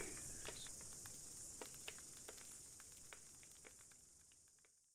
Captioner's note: fire crackling and night insect buzzing